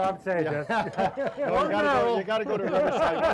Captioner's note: laughing